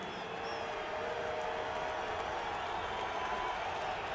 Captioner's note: crowd cheering